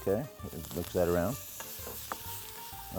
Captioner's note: pan sizzles